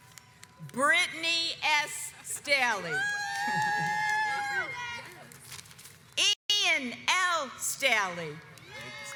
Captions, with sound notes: Brittany S. Staley (audience cheers) Ian L. Staley